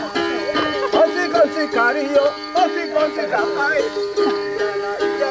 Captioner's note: chants